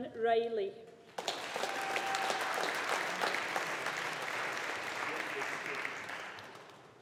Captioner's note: audience applauding